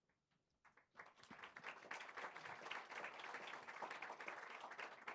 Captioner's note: audience claps